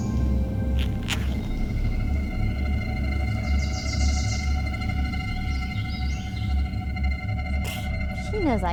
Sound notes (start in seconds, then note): 0.8 zipper whizzes